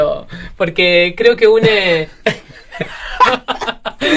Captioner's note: laughs